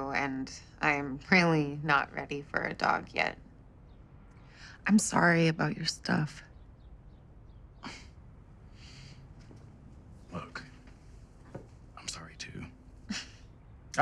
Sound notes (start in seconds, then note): 7.8 sighs; 13.1 chuckles